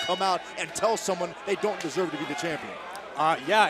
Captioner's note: bell